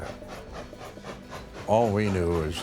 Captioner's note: train chugging